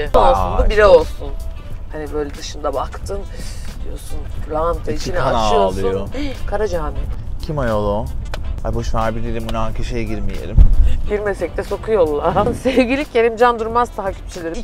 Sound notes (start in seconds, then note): 5.4 sigh